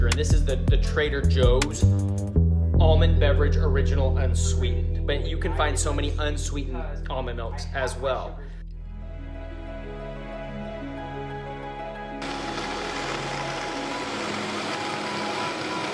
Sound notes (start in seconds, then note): 12.2 blender whirring